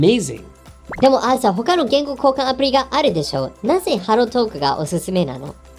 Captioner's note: digital foreign language